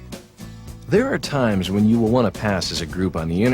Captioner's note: voiceover